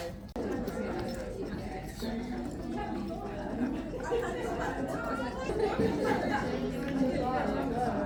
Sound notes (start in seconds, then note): 3.1 crowd chattering